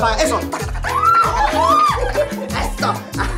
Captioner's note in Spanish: Gritos